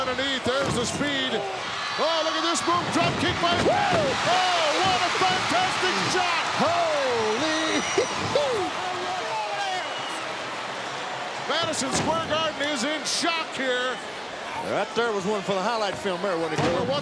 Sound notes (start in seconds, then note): 7.5 laugh